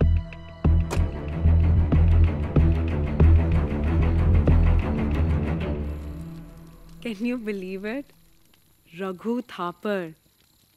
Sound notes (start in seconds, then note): 0.8 Car door closing